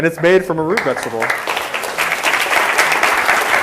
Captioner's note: applause